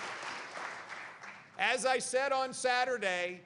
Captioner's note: applause